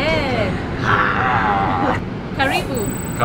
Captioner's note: both growl; speaks in foreign language